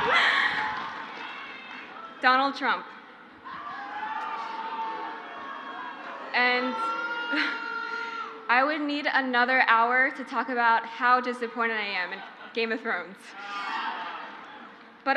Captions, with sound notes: (crowd cheers) Donald Trump. (crowd cheers) (crowd jeers) I would need another hour to talk about how disappointed I am in Game of Thrones.